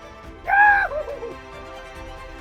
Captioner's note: scream